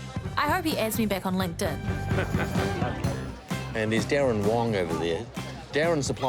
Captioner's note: chuckles